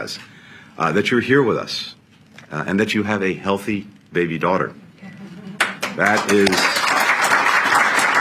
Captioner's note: applause